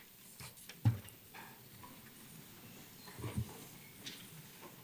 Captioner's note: papers rustle